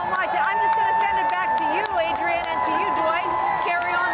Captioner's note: cheers